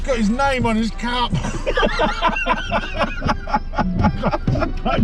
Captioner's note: laughing